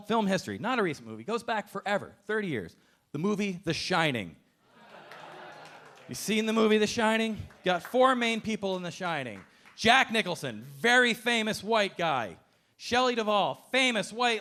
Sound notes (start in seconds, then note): 4.7 audience laughing